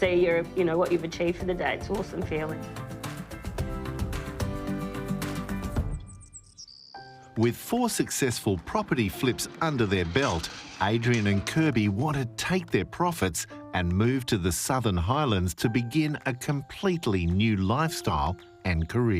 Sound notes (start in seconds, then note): 1.8 dynamic music; 5.9 birds twittering